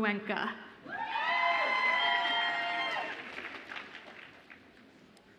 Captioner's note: audience applauds and cheers